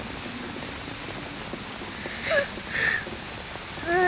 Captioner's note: crying